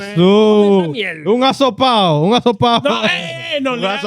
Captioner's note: speaking In Foreign Language